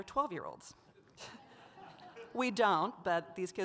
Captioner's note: audience laughs